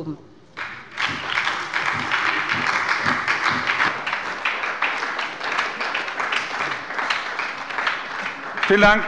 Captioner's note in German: Beifall bei der SPD